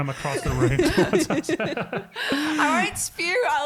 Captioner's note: all laughing